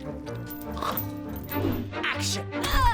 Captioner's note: zombie vish chomps